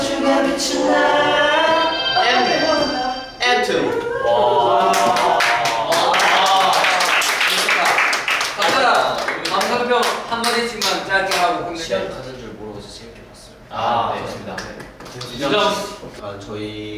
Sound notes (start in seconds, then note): 4.9 clapping